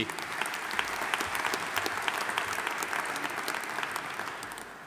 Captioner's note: audience applauding